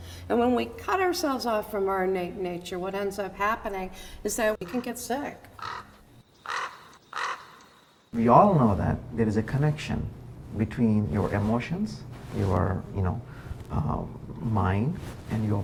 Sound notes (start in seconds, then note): 6.4 crow cawing